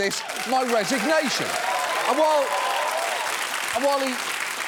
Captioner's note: audience cheering, applauding